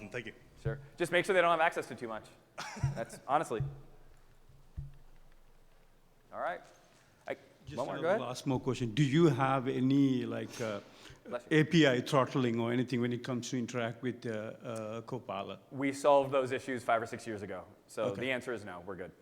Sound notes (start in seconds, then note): 2.6 audience member laughing